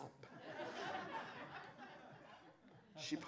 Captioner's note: laughter